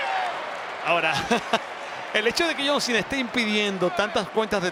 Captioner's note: laugh